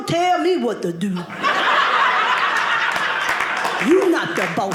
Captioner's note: audience laughing